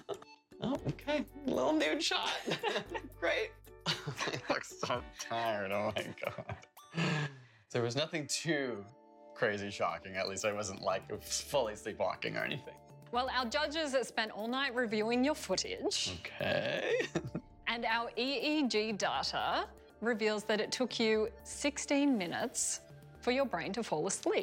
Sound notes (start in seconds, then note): 3.8 laughter